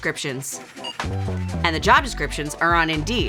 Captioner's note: scanner beeps; chime sounds